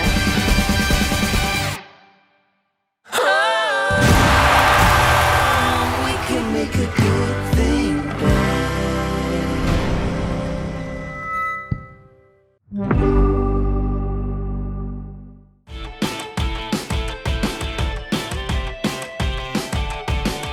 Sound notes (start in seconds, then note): 0.0 epic rock music; 11.1 mic screeches; 12.8 gentle tone; 15.8 upbeat music